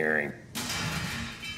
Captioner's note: metal crashes